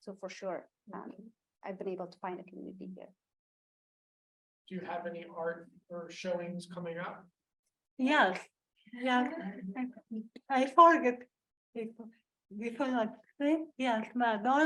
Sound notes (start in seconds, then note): 9.5 foreign language